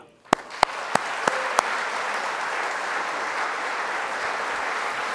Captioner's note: audience applauding